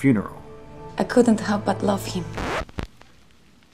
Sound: record skips

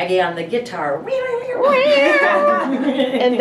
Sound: imitating guitar riffing; laughing

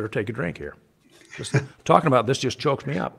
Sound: chuckles

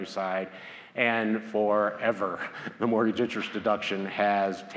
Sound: laughs

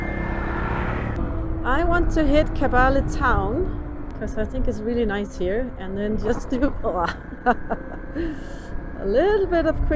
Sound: laughing

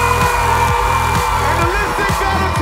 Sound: audience cheering

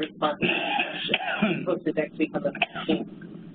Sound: coughing

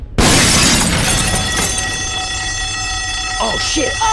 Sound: window breaks; alarm sounds

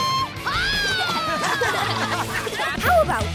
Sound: laughing

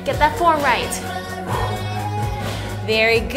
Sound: breathes heavily

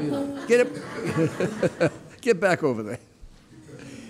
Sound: giggles

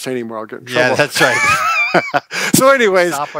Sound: laughing

